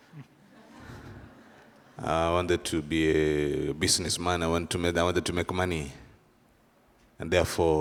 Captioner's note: laughter